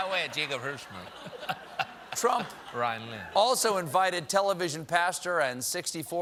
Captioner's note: laughter